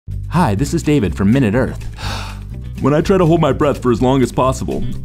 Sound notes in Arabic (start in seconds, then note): 1.8 شهيق